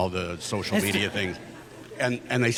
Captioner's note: audience laughs